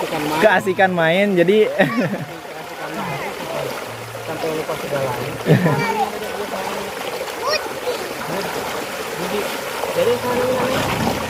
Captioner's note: laughs